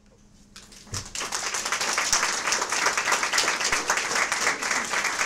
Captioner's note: audience applause